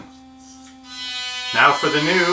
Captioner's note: loud toothbrush motor buzzing